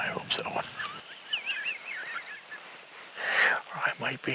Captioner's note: laughs